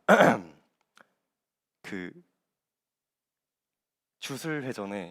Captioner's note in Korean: 목을 가다듬음